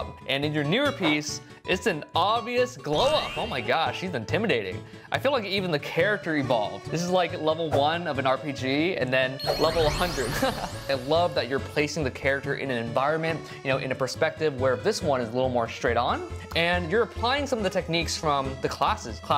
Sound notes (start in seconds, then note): 10.2 chuckles